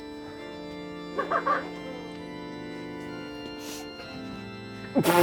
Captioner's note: laughing